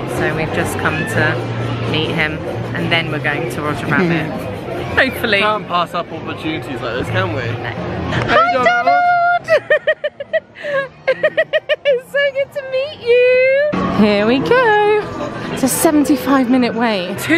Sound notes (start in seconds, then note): 8.7 giggling